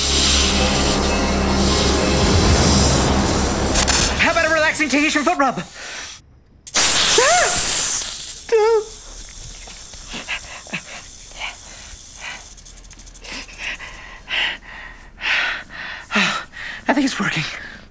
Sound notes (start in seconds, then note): 0.0 whispers; 0.0 music intensifies; 6.7 snake hissing maliciously; 9.6 snake hissing dims; 10.0 heavy breathing